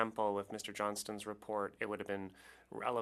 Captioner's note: speaking French